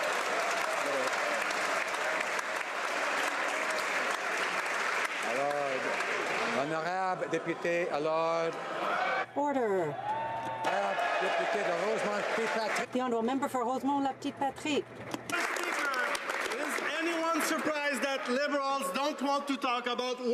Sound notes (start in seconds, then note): 0.0 some Applause